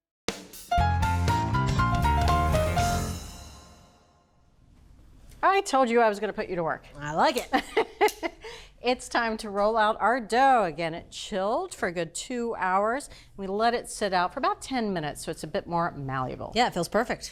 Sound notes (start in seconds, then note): 7.7 laughs